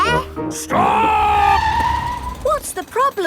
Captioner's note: tires screeching